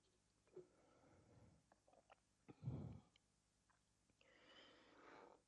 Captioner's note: water gulping